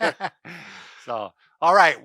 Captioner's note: laughing